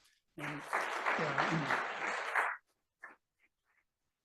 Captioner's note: audience clapping